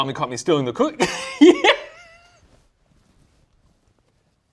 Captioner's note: laughing